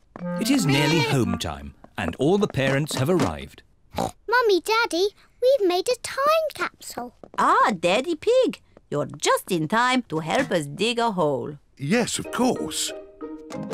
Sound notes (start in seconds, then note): 3.9 oinks